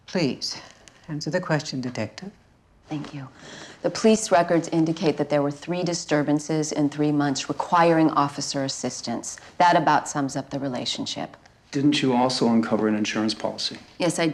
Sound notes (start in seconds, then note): none